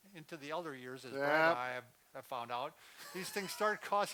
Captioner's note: laughs